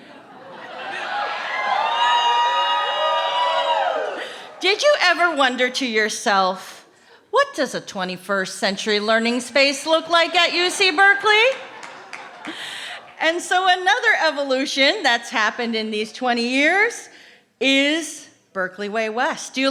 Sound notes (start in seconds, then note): 0.5 cheering